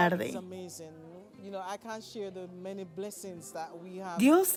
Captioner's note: Hablando idioma extranjero